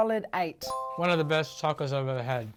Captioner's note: chime